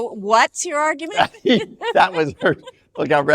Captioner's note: both laugh